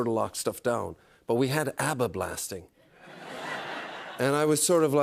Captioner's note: laughter